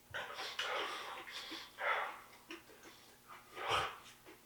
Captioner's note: Jacob shivering